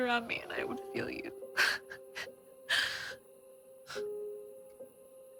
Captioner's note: Molly whimpers